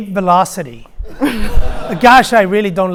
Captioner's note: audience laughing